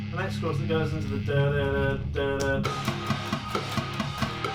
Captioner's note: humming